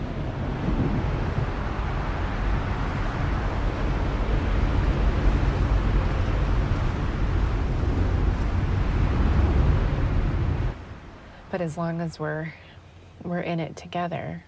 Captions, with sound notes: (RHYTHMIC PATTERN OF RAPID WIND) But as long as we're in it together,